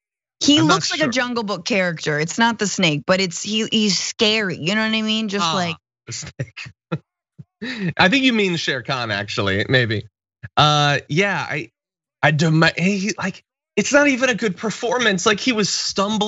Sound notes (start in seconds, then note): 7.5 laugh